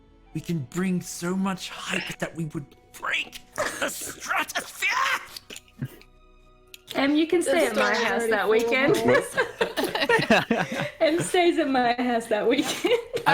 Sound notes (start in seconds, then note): 9.4 excited giggles and chatter